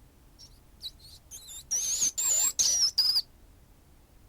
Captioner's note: rat squeaking